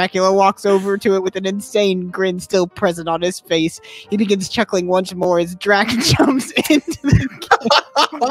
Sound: laughing; breaking down

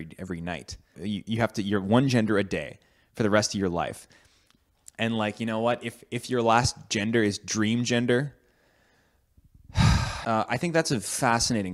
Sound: sighs

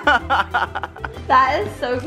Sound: laughs

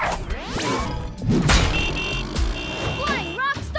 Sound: honking

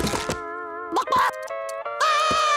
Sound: clucking; crying

